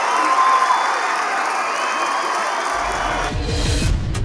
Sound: cheers and applause

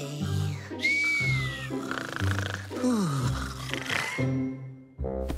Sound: snoring

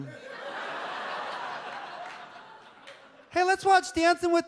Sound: audience laughs

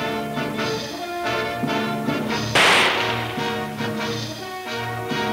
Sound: gun firing

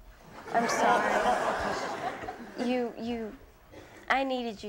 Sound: audience laughing

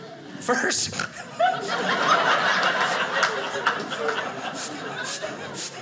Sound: audience laughing

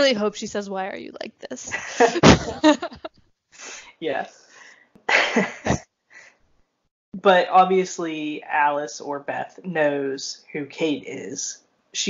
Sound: both laugh

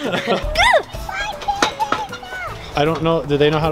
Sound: children babbling

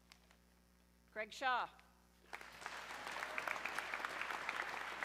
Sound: audience clapping

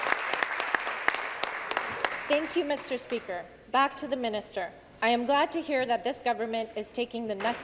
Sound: applause

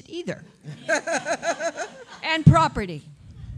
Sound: laughter

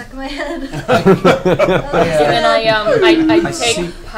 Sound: all laugh

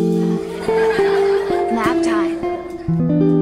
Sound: kids cheering

